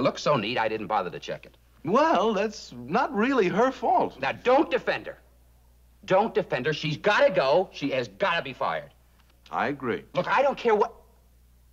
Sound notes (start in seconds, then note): none